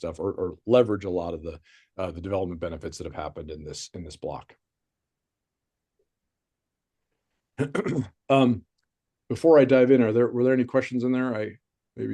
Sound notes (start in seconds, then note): 7.6 clears throat